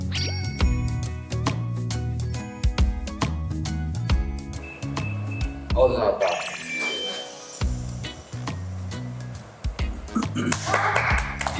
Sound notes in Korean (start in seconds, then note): 4.5 띠리리리